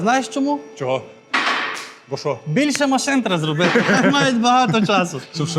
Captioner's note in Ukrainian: сміх